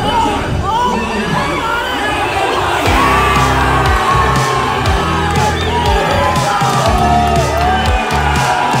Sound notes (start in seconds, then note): 3.0 crowd cheering; 5.0 uplifting music